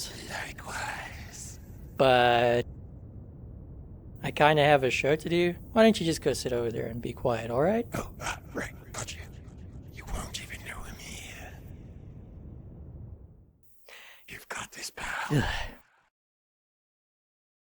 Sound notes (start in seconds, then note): 13.9 inhales; 15.3 sighs dissapointedly